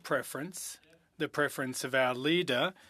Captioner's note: speaking French